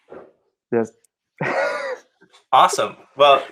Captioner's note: laughter